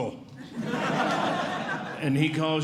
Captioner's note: audience Laughing